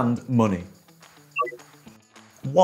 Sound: touchpad bleeps

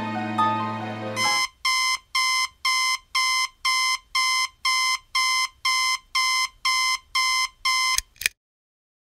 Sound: alarm going off

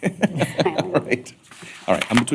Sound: laughter

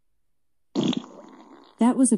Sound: farts

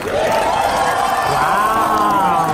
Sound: crowd cheers

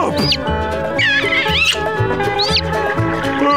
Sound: kissing, chirping

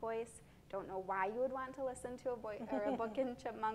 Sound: giggles

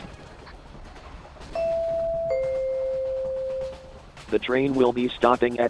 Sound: train announcement chime

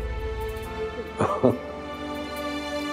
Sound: laughing

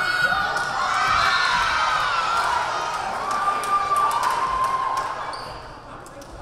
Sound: crowd cheering; whistle blaring

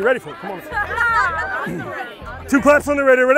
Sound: laughs

